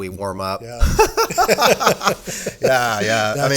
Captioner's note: laughing